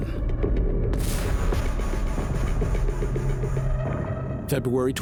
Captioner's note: explosion booms